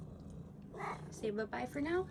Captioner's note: meows in agreement